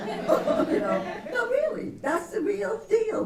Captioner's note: laughter